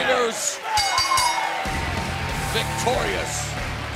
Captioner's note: bell ringing